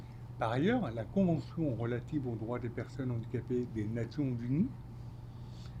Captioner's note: speaking French